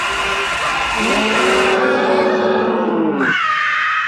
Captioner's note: Billy growls; Myra screams